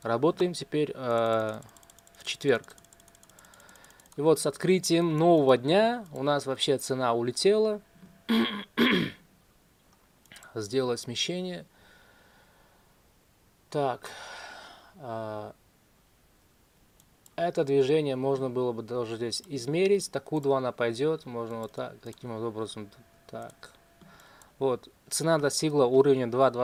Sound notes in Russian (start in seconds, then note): 8.2 кашель; 8.3 откашливается; 12.7 вздыхает